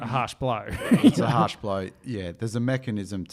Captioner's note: laughing